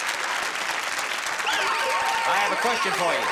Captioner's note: alarm blares